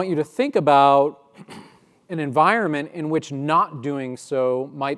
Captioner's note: cough